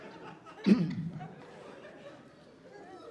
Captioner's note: clears throat